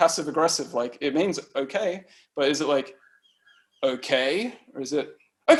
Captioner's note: dismissive tone; excited tone